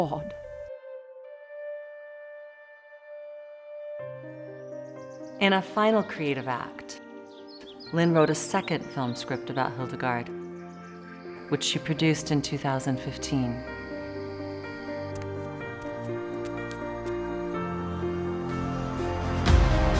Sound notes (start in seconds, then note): 1.4 gentle piano music; 4.9 birds chirping; 14.6 uplifting instrumental music